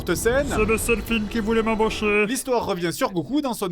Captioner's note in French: voix ridicule